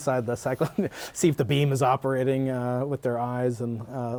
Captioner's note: laughter